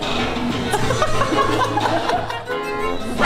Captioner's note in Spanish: Riendo